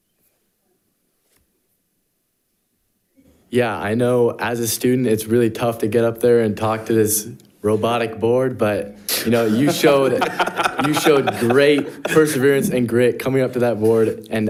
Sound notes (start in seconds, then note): 9.3 participants laughing